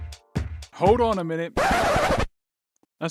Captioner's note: record scratch, music stops